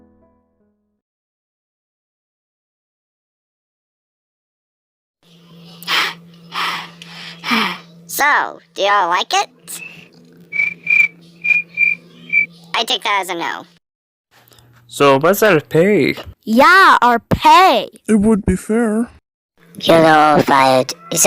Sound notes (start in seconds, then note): 7.3 panting; 10.5 cricket whistle